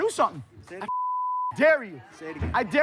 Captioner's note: beep